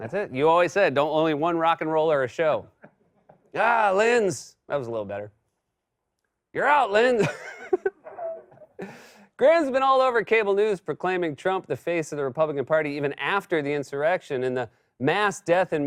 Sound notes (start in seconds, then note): 4.5 normal voice; 7.2 laughs; 9.3 normal voice